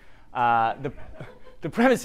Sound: audience laughing

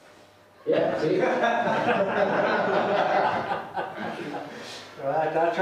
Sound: laughter

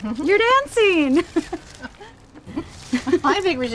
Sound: laughter

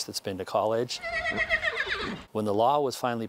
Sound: neigh

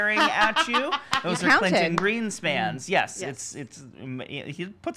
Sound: laughing

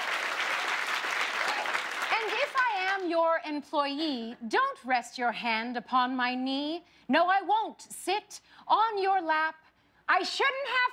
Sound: cheers and applause

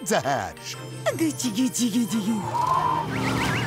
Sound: cooing

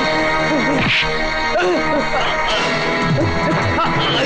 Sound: groaning

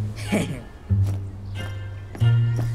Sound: chuckles

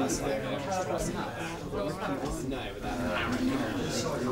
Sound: indistinct chatter

